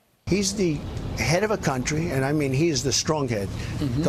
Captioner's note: laughter